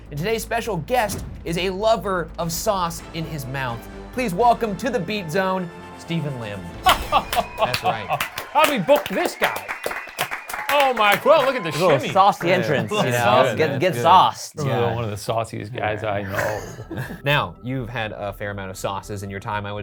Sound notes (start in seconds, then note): 6.8 guffaws and claps; 9.7 audience applauds